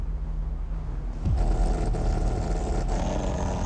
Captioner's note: device whirring